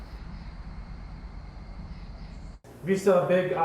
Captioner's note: insects chittering; birds chirping